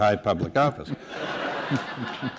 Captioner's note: laughter